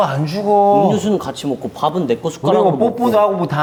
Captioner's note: upset